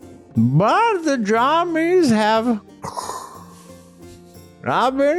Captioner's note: inhales